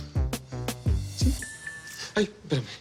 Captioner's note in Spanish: Suena el celular